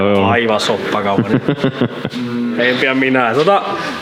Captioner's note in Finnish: naurua